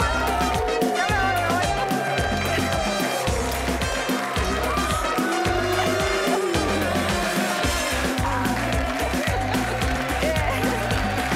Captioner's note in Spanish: Gritos y exclamaciones